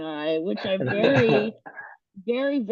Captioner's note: laughs